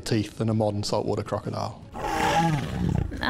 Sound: growling

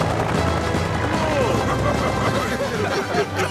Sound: laughter

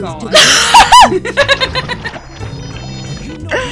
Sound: loud laughter

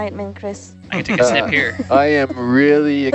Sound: all giggling

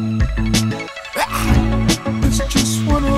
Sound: growls

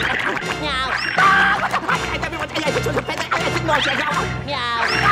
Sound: screaming

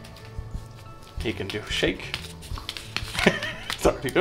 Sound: laughs

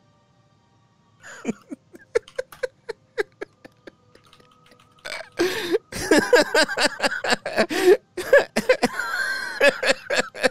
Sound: laughs at Griffin's Bless Wiki entry, "Can you get pregnant in Bless?"

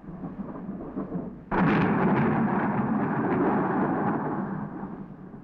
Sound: thunder crashing

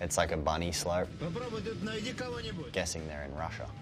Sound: speaking in foreign language

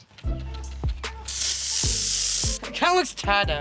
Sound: spraying

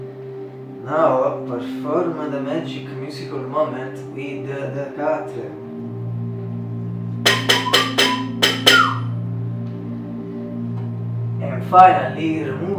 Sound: whistle

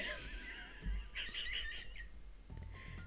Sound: wheezing

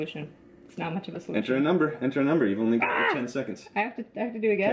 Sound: augh!

